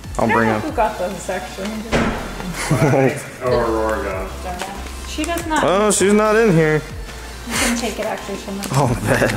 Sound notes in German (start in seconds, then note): 1.8 Tür schließt sich